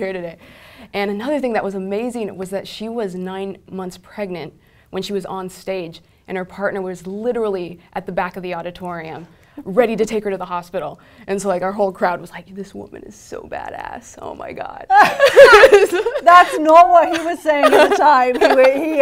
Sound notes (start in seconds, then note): 14.9 laugh